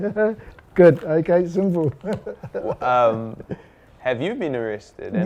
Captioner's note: laughs